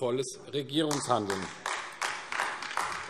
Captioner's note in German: Beifall AfD